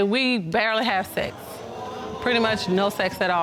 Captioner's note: audience exclaims